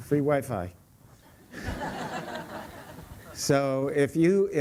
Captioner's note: laughter